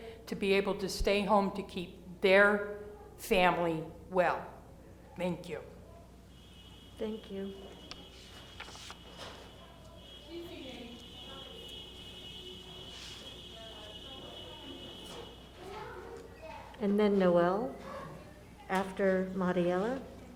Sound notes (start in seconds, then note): 8.2 cars honking; 14.6 cars honking